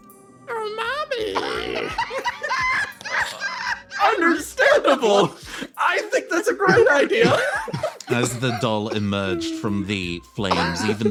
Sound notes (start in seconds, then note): 2.3 laugh